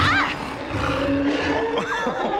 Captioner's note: roaring; laughing